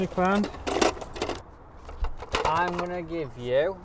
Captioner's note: scale rattling